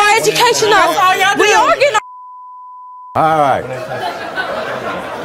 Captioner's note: beep